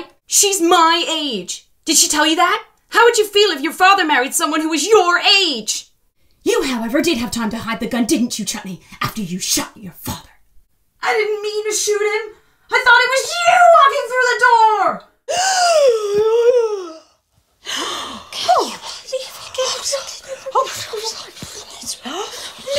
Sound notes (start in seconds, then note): 15.0 audience gasps; 17.1 shocks and gasps from the audience